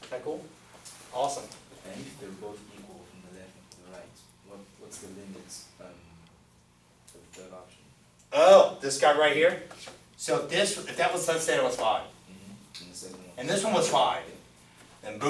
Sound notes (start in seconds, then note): 2.3 voiceover